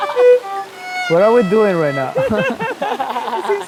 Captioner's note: laughs